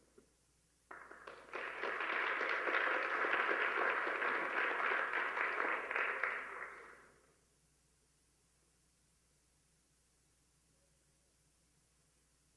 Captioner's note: applause